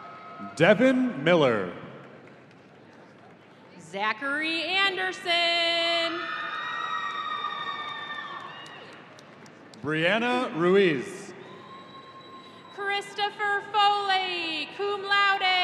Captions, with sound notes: - Devin Miller. - Zachary Anderson. (audience cheering) - Briana Ruiz. - Christopher Foley, Cum Laude.